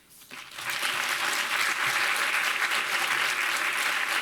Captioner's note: audience applauding